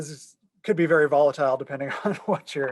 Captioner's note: laughter